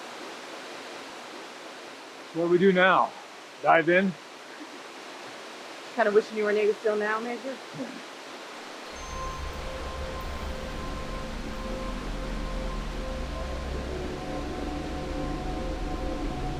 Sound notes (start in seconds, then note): 7.5 chuckles